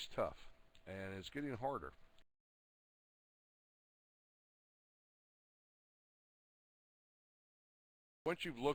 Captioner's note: audio drops